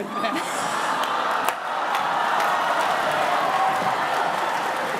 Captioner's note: cheering